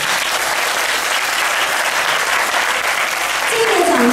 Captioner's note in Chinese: 掌聲